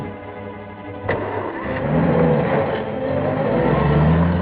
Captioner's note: engine turning